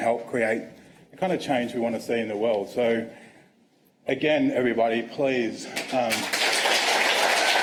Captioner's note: applause